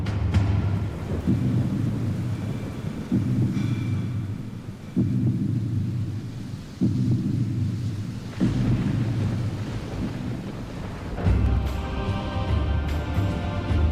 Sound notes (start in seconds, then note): 7.5 beating heart; 7.5 thunder and rain